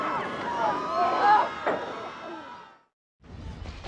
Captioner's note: people Panicking